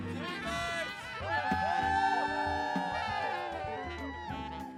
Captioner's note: cheering